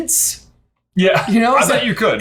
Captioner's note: laughs